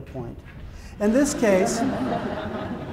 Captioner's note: laughter